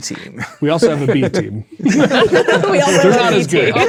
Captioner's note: players laughing